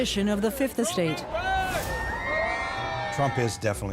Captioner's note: crowd cheering